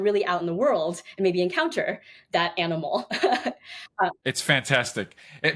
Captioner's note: chuckles